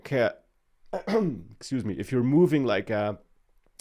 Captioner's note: clears throat